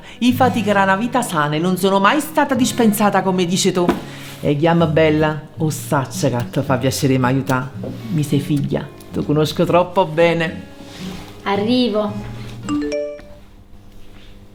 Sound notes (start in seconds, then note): 12.6 phone notification